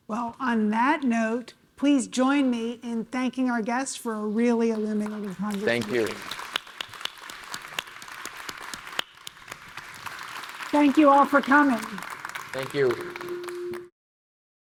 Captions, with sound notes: - Well, on that note, please join me in thanking our guest for a really illuminative. (audience members clapping) - Thank you. - Thank you, all for coming. - Thank you.